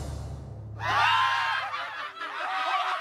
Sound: renewed laughter

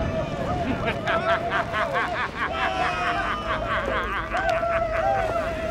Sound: laughter

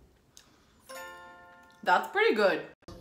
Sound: bell chiming

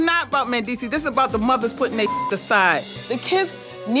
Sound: beep

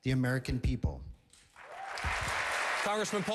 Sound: applause

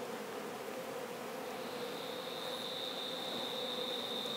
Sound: bees buzz

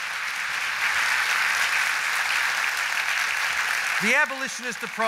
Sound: applause

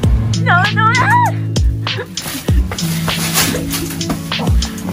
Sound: laugh

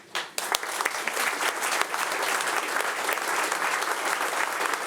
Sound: audience applauding

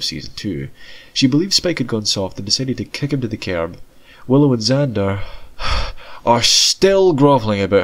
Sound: sigh

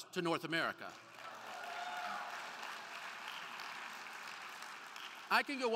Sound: crowd cheering

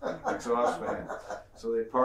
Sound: laughs

